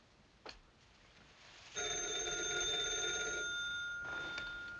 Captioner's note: rings